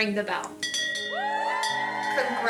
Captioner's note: bell clanging; hospital staff cheering and clapping